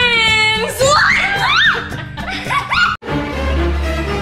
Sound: all laughing; dramatic music

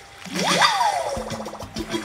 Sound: water splashing; cheering

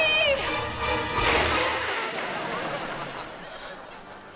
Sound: hissing

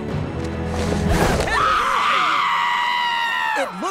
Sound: screaming

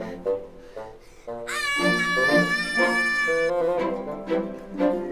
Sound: screams

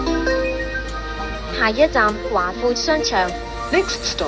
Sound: Cantonese

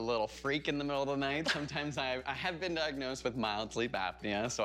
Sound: laughter

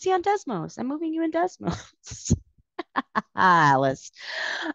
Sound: laughing

